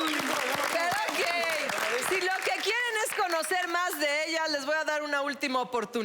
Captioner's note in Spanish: Aplausos